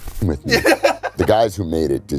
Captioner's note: laughs